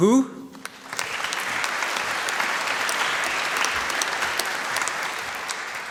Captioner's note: applause